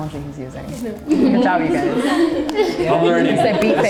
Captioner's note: everyone laughing